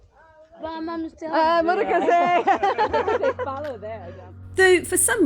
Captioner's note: laughing